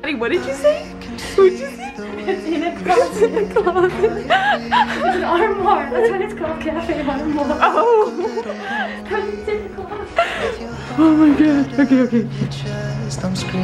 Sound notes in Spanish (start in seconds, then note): 4.3 riendo